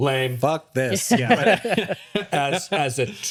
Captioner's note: laughing